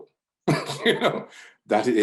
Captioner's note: laughs